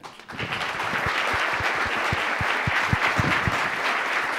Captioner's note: applause